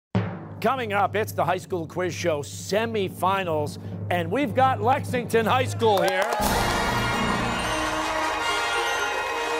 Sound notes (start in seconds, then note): 2.8 cheers and applause